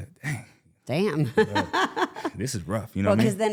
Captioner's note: laughs